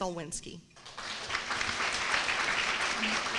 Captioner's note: applause